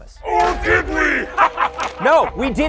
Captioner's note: laughs